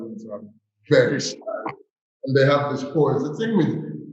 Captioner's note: chuckles